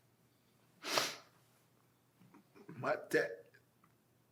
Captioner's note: sniffling